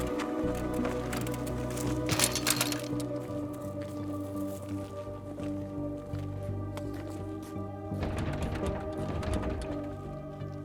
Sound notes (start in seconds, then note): 2.2 bikes rattle; 4.3 eerie music; 8.0 door rattles